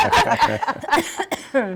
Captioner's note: laughing